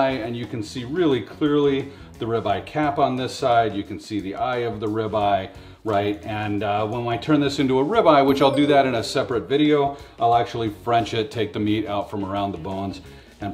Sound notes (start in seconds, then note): 8.2 message tinkles